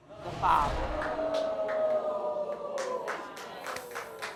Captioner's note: crowd whooping